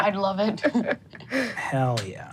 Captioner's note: laughs